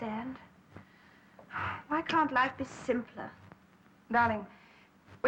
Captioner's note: sighs